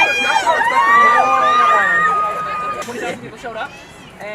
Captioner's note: people chattering